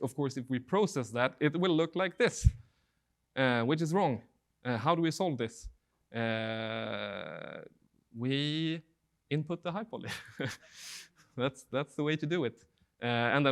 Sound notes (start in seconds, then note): 10.0 laughing